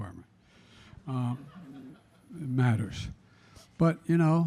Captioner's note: laughter